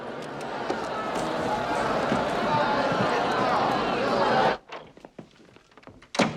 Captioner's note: crowd Murmuring